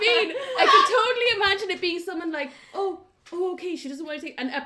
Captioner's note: laughter everywhere